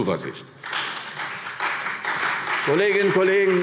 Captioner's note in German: Beifall CDU und BÜNDNIS 90/DIE GRÜNEN